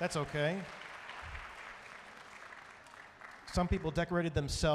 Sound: audience applauding

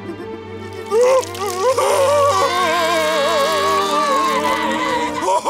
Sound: crying

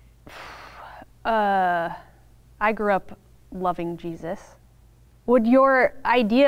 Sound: exhales

